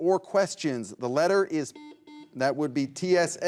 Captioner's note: buzzer beeps